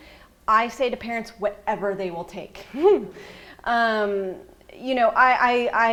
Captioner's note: laughs